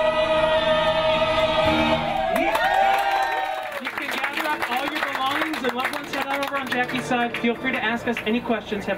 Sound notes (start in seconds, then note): 2.3 all cheer